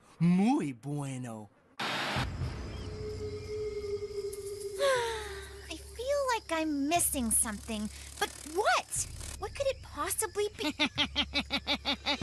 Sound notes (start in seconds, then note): 4.7 Courtney Sighing; 10.6 Bird Chuckling like Scott